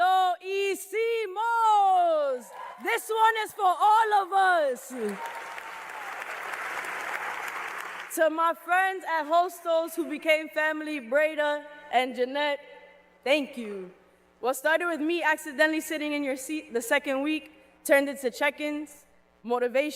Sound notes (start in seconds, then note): 1.8 speaking in Spanish; 7.2 cheers and applause